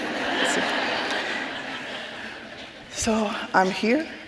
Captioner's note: audience laughing